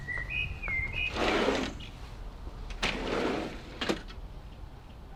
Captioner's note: sliding door screeches